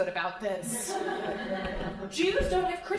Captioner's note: crowd laughing